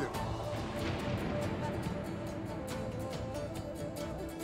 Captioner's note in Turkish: Gök gürültüsü efekti; Müzik - Vurmalılar ve yaylılar